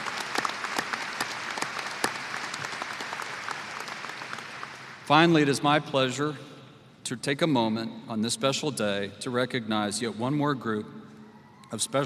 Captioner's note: applause